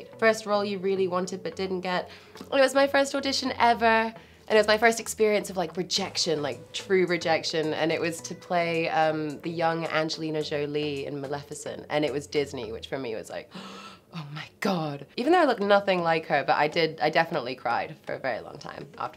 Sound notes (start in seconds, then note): 13.5 gasp